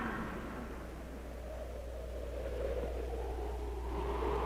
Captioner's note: wind howling